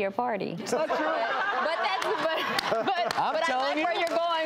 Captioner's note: audience laughing